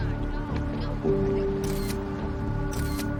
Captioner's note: shutter clicking